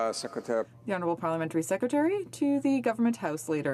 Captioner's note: speaking French